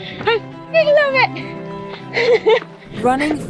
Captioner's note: laughs